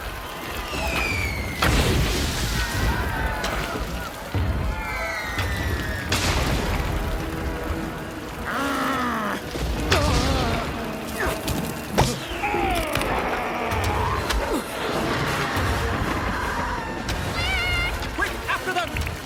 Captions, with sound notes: [Growling] [Roaring] - Flik! - Quick! After them!